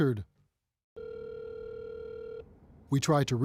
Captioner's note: phone ringing